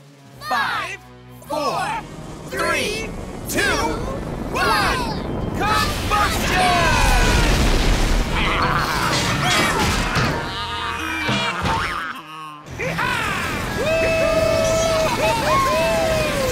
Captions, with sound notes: Five, four, three, two, one! Combustion! [baaing] [cheering]